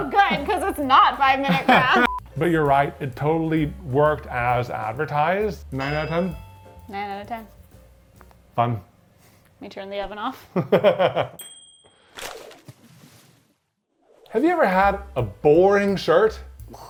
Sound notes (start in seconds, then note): 2.0 digital beeping; 5.7 bell dinging; 10.5 laughing; 11.3 bell dinging; 12.1 paper rustling